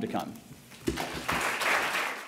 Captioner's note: applause